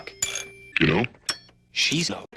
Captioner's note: pitched down